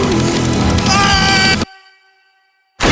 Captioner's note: screaming